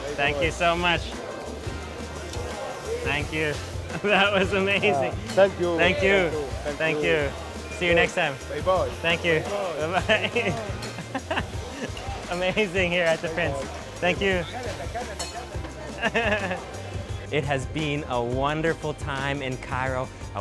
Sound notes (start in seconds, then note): 8.3 speaking in foreign language; 9.7 laughs; 15.8 laughs